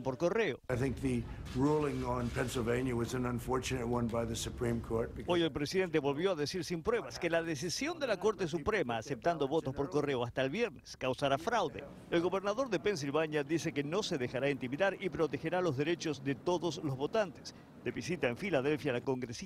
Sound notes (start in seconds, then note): 8.4 habla en ingés